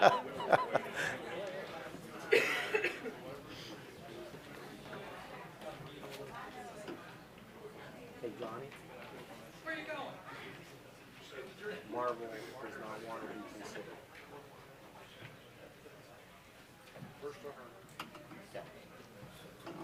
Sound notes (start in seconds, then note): 2.2 laughter